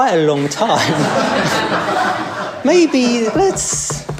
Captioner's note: laughter